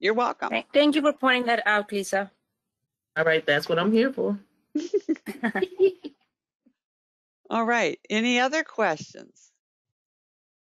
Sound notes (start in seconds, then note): 4.7 background laughter